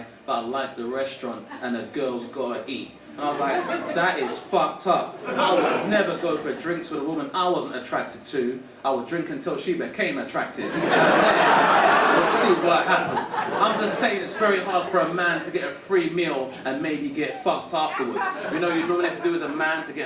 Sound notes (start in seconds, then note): 10.6 audience laughing